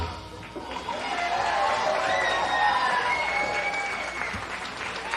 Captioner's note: audience Cheers